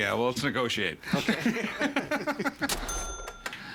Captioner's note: laughing